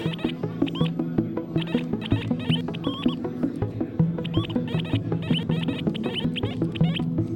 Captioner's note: video game sounds